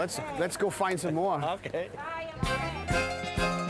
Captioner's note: chuckling; string folk music